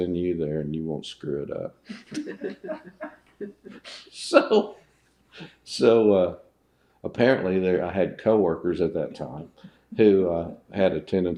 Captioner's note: laughter